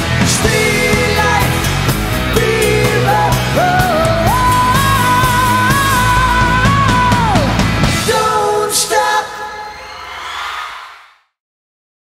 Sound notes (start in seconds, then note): 8.8 crowd cheering